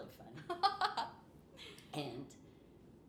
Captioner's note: laughing